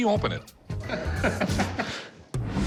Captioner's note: laughter